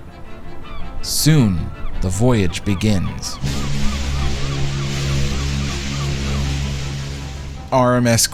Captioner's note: Queen Mary's whistles boom